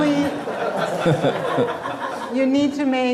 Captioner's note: audience laughing